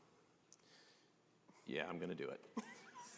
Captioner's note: laughter